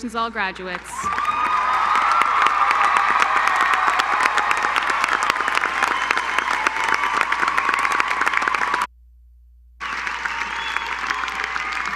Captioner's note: applause